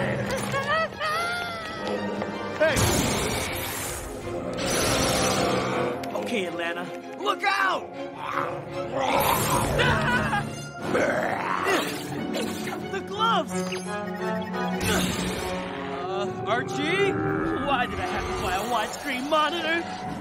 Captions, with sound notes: (Crying) Hey! Okay, Atlanta... Look out! (Screaming) (Growling) The gloves! Uh, Archie. Why did I have to buy a wide-screen monitor?